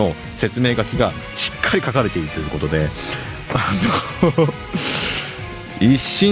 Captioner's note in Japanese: 笑い